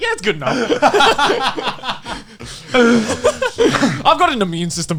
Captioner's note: hosts laughing